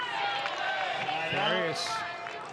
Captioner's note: audience cheering and clapping